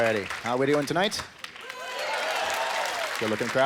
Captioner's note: cheering